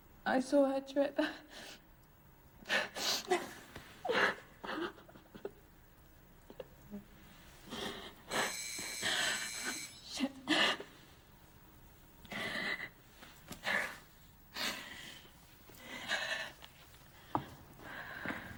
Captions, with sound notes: I saw her trip. (both crying) (doorbell buzzes) - Shit.